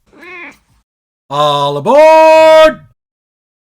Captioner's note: meow